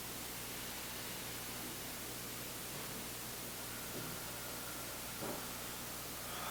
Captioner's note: both inhaling; exhaling